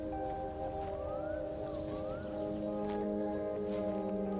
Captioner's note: sounds of nature